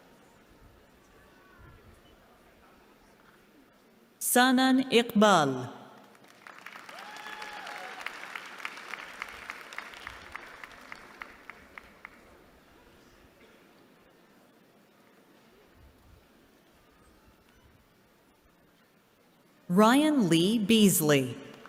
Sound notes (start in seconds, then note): 5.9 applause